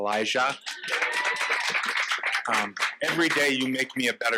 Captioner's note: audience applauding